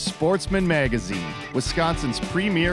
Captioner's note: voiceover